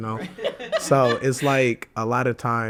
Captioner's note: hosts laugh